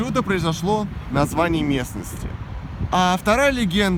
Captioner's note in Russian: none